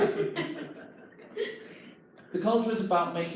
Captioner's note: employees laugh